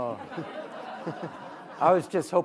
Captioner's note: audience laughing